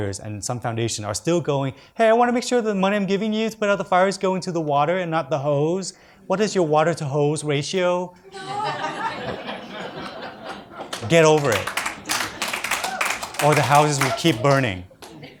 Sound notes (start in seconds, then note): 8.2 audience laughs; 12.3 audience applauds